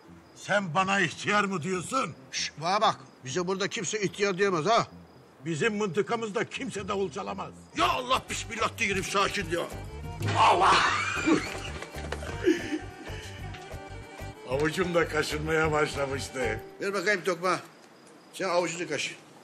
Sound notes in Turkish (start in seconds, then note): 10.8 Gülüşmeler